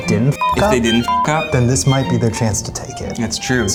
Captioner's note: beeps